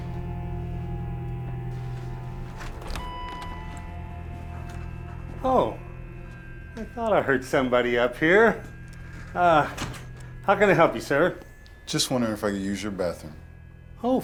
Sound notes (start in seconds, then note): 3.0 door bell dinging